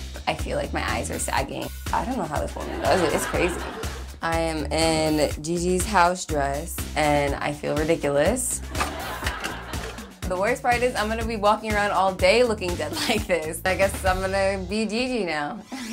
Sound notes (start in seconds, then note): 8.6 audience laughing